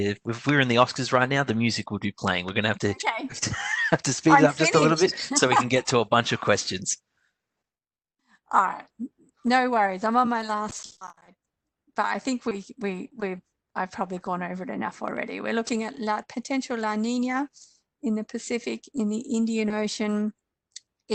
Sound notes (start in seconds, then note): 3.3 laughs